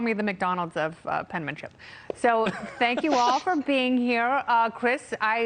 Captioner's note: laughter